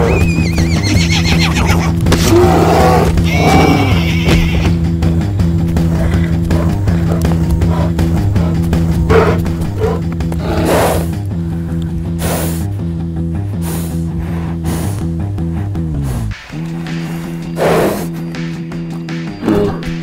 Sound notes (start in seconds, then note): 0.0 whinny; 2.1 bear roars; 10.4 heavy breathing; 16.7 heavy breathing